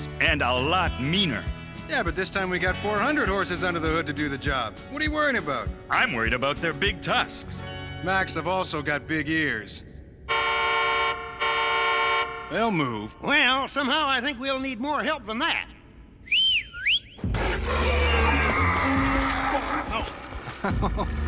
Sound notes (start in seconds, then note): 10.2 horn honking; 16.2 whistling; 17.3 roaring